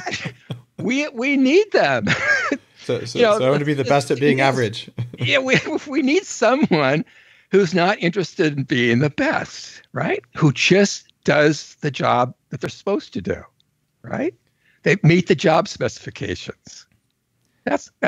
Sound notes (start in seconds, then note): 2.6 laughs